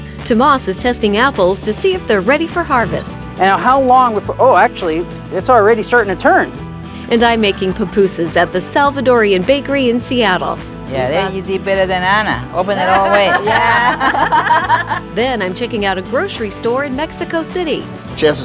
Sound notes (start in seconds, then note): 12.8 laughter